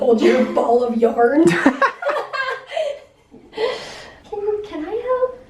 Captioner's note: laughter